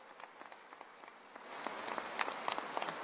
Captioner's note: applause